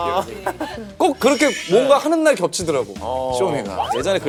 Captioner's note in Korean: 스윽